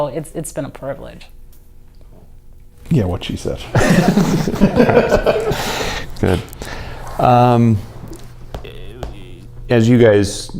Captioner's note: laughter